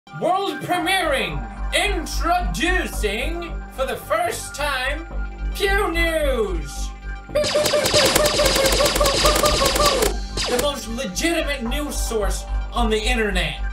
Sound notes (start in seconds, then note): 7.3 fake laser gun sounds